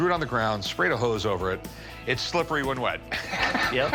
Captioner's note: laughs